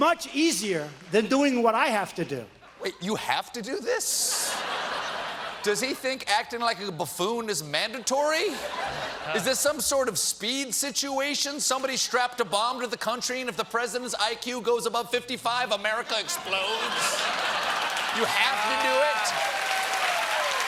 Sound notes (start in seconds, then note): 8.3 laughter